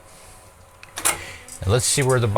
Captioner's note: clicking